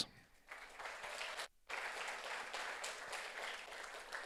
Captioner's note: audience applauds